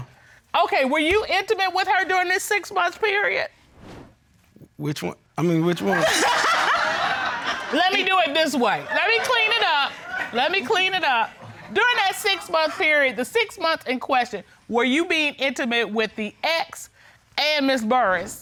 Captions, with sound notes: Okay. Were you intimate with her during this six-month period? -Which one-- I mean, which one? -[laughter] Let me do it this way. Let me clean it up. Let me clean it up. During that six-month period, the six months in question, were you being intimate with the ex and Ms. Burries?